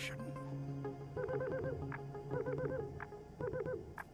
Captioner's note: treehopper chirping and tapping